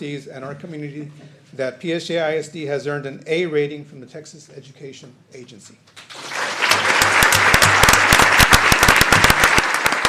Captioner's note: applause